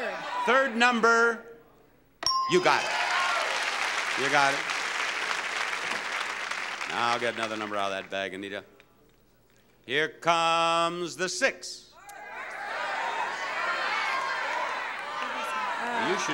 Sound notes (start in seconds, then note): 2.2 bell dinging; 2.7 audience applauding; 12.0 audience shouting